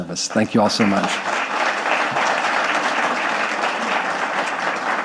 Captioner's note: audience clapping